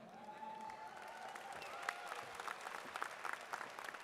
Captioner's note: audience claps